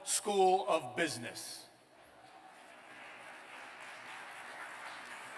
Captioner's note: applause